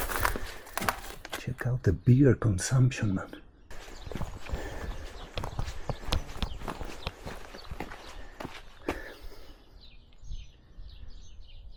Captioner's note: birds chirping